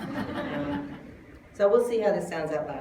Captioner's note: laughter